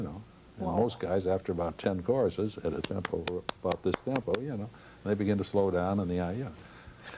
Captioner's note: claps